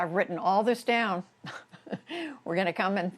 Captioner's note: laughter